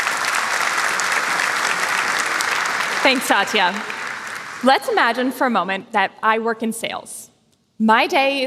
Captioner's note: applause